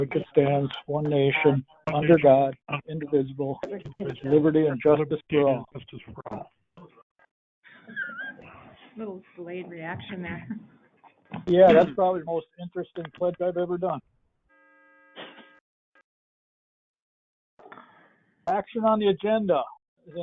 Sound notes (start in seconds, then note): 7.7 laughs